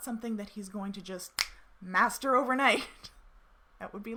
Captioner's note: fingers snapping